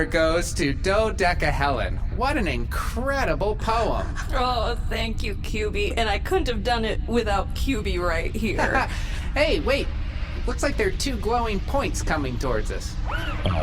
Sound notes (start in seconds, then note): 9.1 laughs